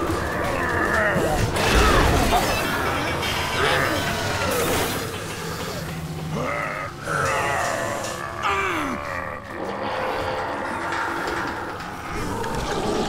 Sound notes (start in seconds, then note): 6.2 grunting